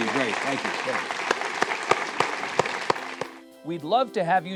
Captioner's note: audience applauding